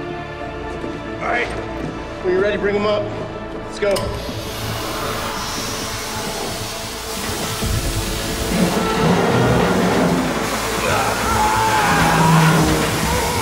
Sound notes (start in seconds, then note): 4.9 air hissing; 8.4 metal creaking; 10.0 shouts